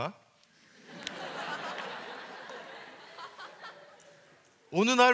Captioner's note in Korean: 웃음